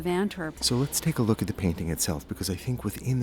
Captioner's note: voiceover